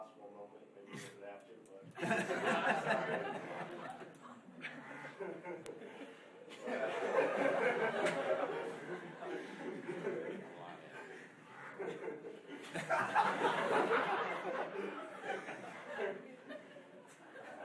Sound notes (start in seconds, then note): 2.6 laughing